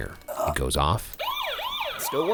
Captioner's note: alarm blaring